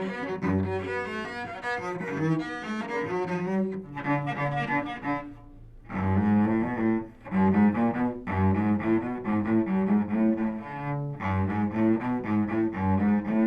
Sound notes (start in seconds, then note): none